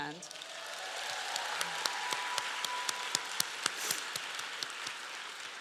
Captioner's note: applause